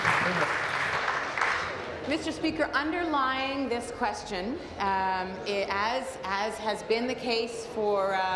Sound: applause

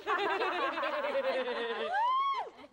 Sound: obnoouxis laughter

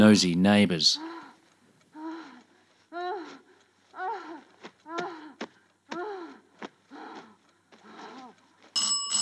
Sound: moaning; door bell

